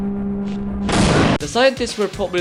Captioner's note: explosion